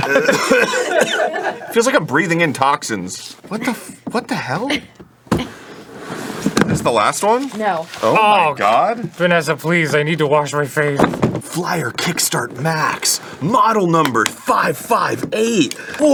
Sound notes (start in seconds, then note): 0.0 coughing; 5.8 box gently thuds on table